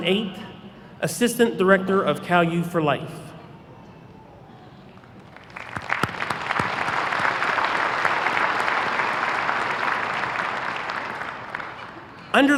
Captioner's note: applause